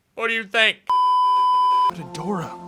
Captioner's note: beeeeeeeeeeeep